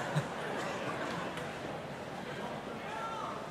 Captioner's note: laughs; audience laughing